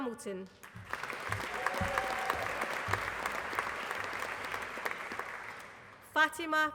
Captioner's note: applause